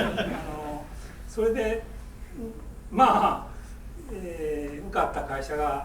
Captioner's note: laughing; speaking in foreign language